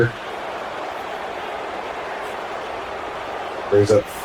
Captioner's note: crowd cheering